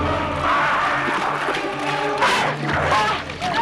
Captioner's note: raider growls; both grunting